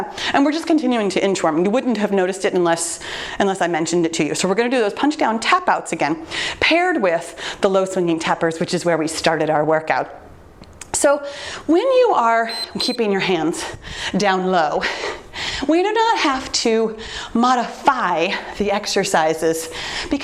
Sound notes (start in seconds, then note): 12.4 timer beeps